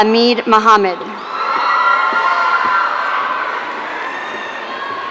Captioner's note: audience cheering